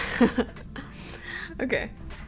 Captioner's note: laughing